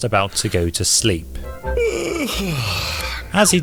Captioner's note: yawns